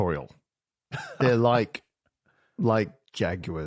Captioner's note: chuckles